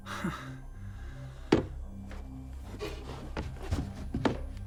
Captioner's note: Malcolm chuckles